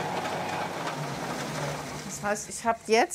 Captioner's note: whirring stops